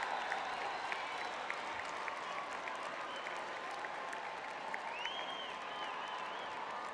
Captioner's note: audience cheering